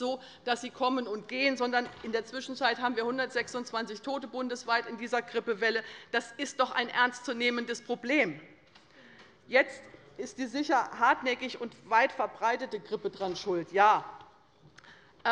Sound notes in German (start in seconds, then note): none